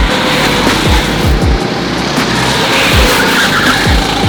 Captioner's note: upbeat music; engines roaring; tires screech